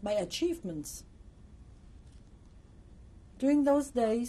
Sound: pauses for 3 seconds

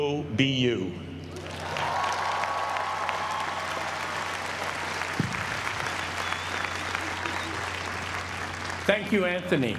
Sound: applause

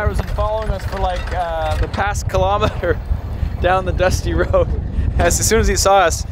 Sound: chuckles

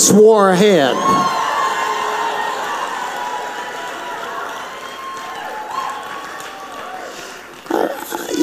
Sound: audience cheers

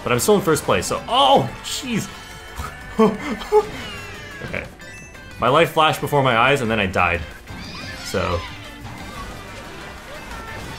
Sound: laughs

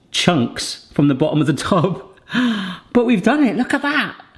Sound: laughs

